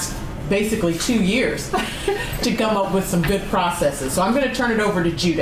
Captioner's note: laughs